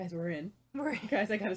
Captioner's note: laughing